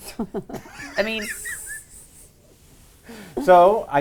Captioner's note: laughter